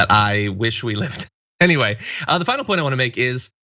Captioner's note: laugh